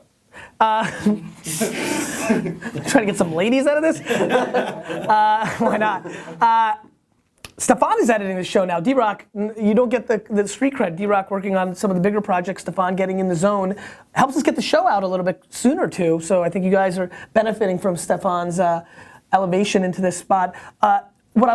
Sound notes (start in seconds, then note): 1.6 laughter